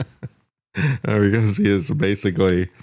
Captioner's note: laughs